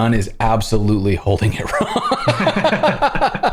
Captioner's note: laughter